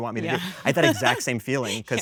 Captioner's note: laughs